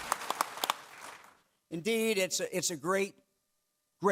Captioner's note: clapping